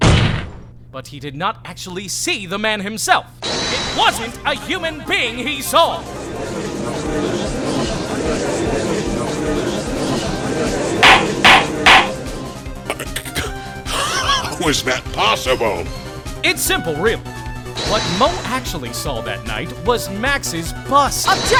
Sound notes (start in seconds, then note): 7.1 gallery chattering!; 11.0 gavel slams!